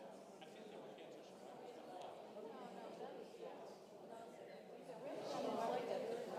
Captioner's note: congregation indistinctly chatting continues